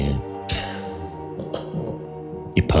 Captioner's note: snickers